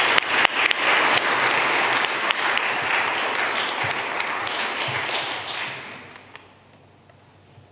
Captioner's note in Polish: oklaski